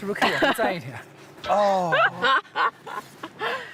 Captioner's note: hahaha